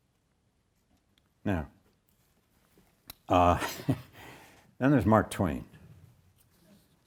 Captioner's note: chuckles